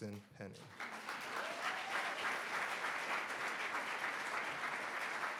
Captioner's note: audience applauds